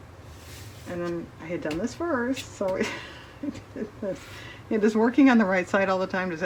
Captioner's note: laughs